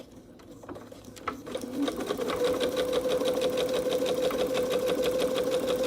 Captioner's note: sewing machine whirring